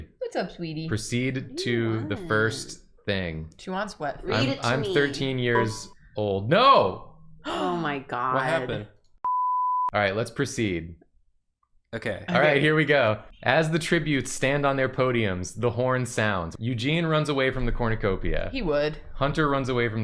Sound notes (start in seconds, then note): 5.5 Windows Error Noise; 7.4 gasp